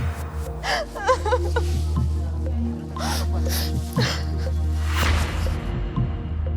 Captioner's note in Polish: płacz